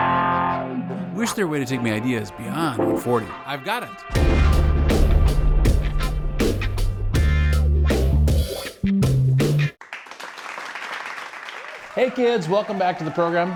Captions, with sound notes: Wish their way to take my ideas beyond 40. - I've got it. (upbeat music) (audience applauds) - Hey kids, welcome back to the program.